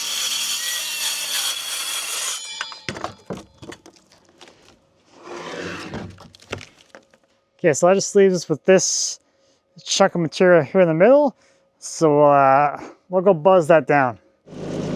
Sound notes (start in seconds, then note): 2.7 saw clunking; 5.0 wood scooting